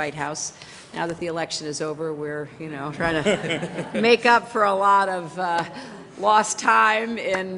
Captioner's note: laughter